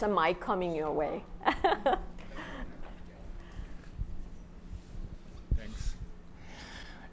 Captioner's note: laughs